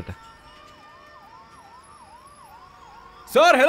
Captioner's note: Siren wailing